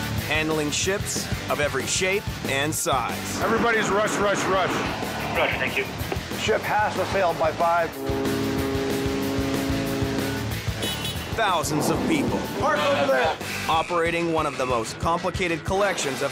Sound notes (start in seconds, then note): 7.9 ship horn honks; 10.6 forklift honks